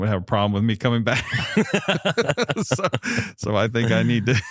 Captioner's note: laughter